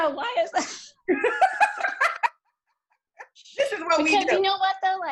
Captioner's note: laughs